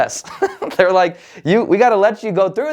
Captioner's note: laughs